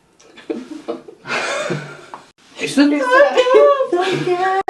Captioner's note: person laughing